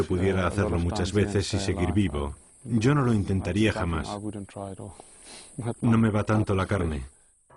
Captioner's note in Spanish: resoplido